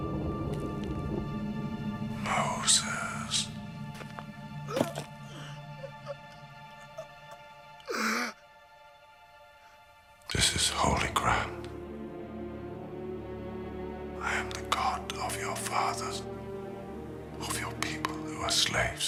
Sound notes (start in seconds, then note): 0.1 male voice whispering; 4.6 gasps